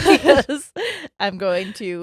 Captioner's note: both laughing